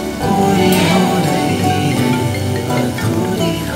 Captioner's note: Phone ringing